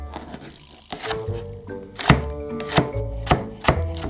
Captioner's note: knife cutting